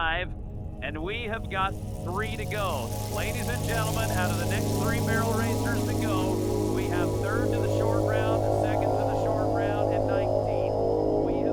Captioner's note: announcer voice fades